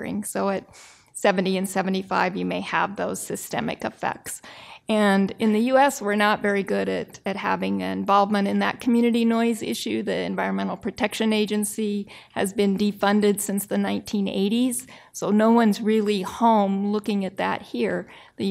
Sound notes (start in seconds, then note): none